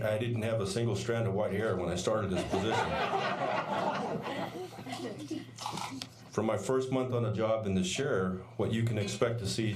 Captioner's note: laughter